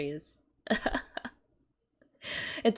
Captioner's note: laughs